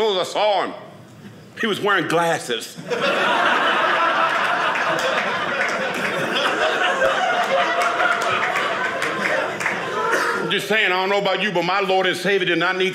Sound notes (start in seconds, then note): 2.8 audience laughing